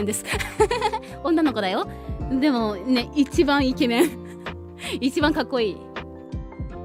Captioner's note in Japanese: 笑い